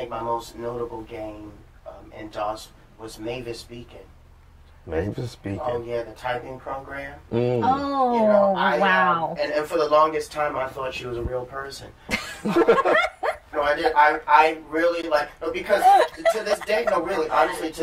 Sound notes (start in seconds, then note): 7.3 sounds of agreement; 12.1 laughter